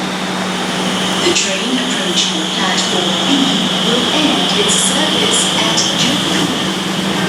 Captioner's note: train accelerating sound